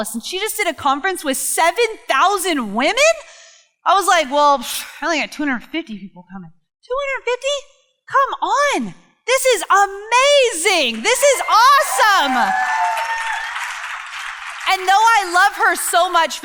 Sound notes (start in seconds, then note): 10.7 crowd cheering